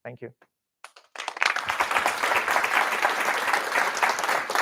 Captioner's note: applause